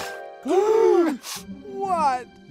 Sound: gasping

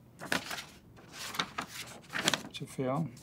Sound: paper rustles

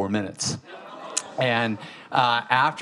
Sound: audience exclaiming

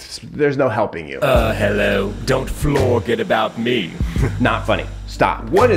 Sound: chuckles

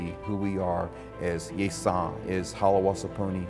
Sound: speaks in foreign language

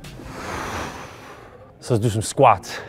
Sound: exhale

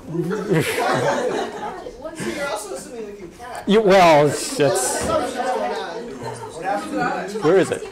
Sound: audience laughs, then inaudible audience remark; laughs

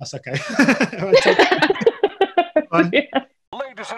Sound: laughing

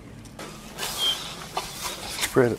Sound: leaves rustle

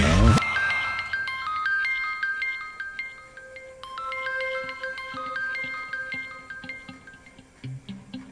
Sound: phone pings

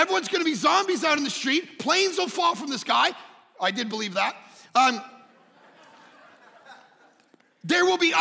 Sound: congregation laughing

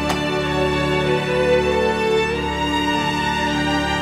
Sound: door opens

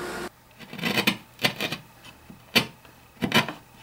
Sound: wood scraping

